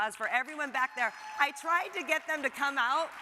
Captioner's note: audience applauds